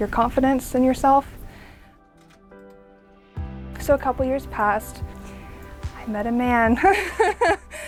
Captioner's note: laughs